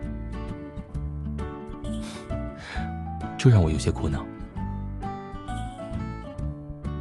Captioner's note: sighs